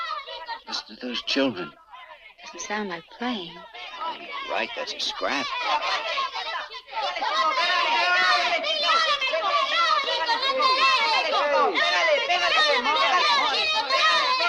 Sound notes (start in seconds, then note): 5.9 children yell over each other